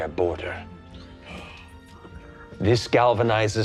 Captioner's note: gasps